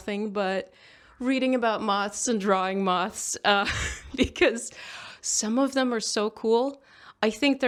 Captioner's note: laughs